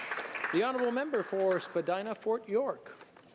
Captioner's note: some Applause